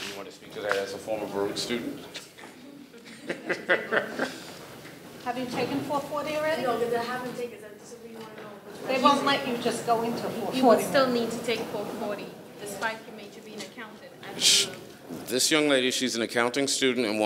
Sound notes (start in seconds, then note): 3.0 panel laughs; 8.4 speaking faintly